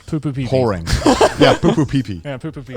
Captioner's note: everyone laughs